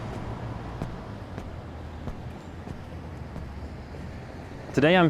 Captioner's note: footsteps tapping